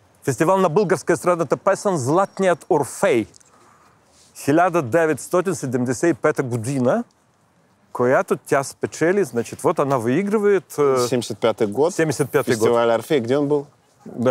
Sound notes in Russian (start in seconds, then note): 4.3 говорит на болгарском